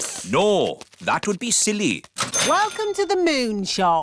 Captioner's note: none